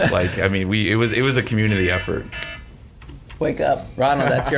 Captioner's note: alarm blaring